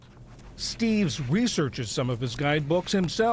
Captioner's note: voice-over